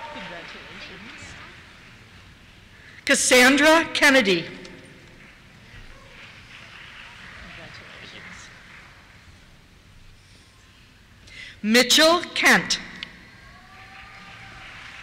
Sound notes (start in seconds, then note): 5.0 applause; 13.2 cheers